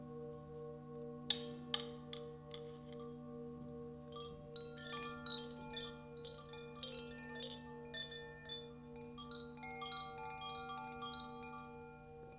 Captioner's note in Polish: dźwięk dzwonków